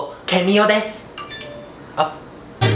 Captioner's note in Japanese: 通知音